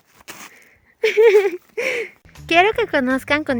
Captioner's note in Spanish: risa